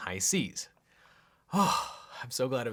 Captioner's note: sighs